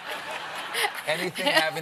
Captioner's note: laughter